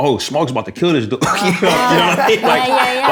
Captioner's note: laughter